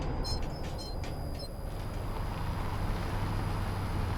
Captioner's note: sign creaking; Humvee rumbling